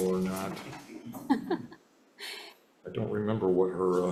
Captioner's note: members chuckling